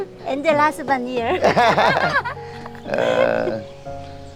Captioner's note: both laughing